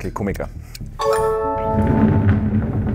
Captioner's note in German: Klingeln